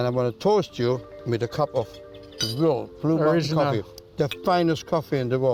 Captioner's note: cups clank